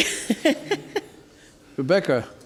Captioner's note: laughing